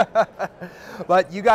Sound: both laughing

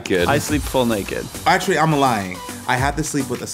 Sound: in southern accent

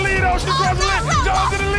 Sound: Teyonah shouting

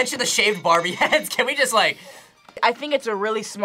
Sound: laughs

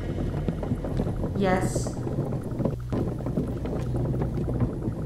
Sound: moans in fear

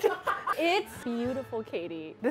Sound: all laughing

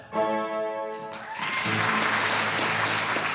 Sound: applause

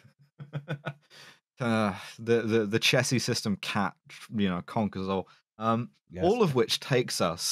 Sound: laughing

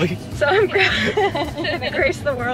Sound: laughs; chuckling

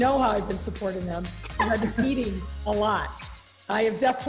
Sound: laughs

